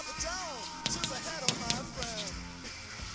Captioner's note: chalk scratching